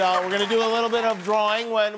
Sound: cheers and applause

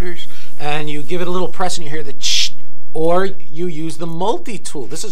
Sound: hissing sound

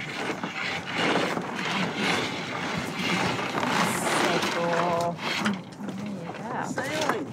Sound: scraping noises

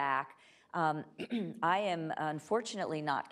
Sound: clears throat

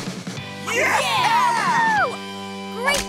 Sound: cheering

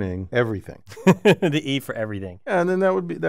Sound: laugh

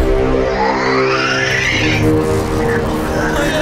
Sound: angry snarling

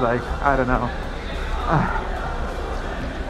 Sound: sighs

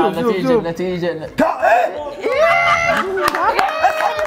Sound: everyone laughs

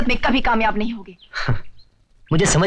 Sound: sighs

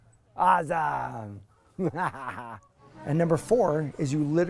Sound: laughing

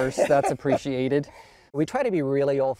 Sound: laughs

